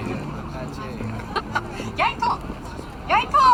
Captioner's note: laughing